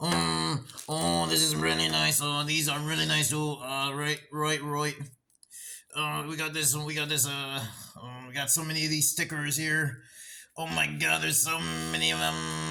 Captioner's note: Sticker brainrot noises